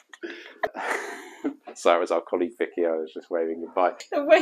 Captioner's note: laughter